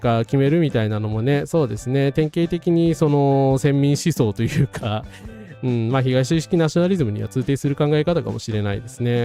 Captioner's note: laughs